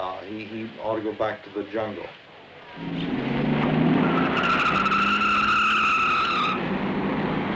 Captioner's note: tire screeching